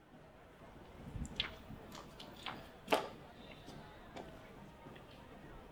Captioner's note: distant murmuring crowd